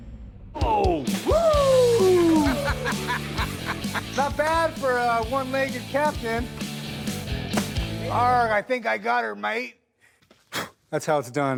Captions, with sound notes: -Oh! -Whoo! [laughs] Not bad for a one-legged captain. Argh. I think I got 'er, mate. That's how it's done.